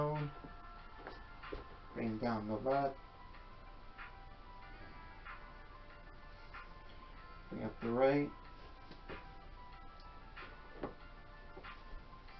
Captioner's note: speaking softly